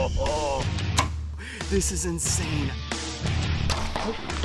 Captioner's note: arrow pinging